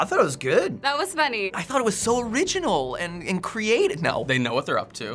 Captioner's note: sarcastically